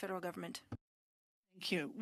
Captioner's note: speaking French